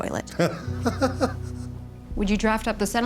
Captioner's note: Tommy laughs